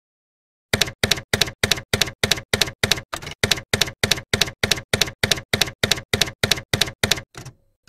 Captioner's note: typewriter keys clacking